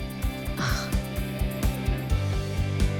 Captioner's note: Moushumi sighs